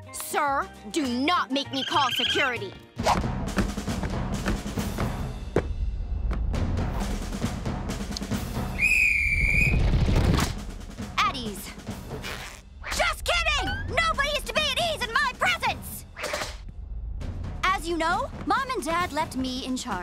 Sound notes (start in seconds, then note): 8.7 whistling